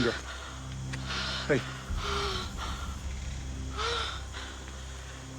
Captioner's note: hyperventilating